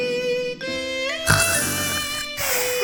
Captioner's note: snoring